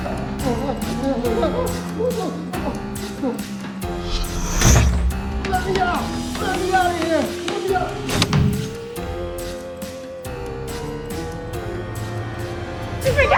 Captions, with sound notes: (Carl whimpering) (door thuds) Let me out. Let me outta here. Let me out. (knife slams)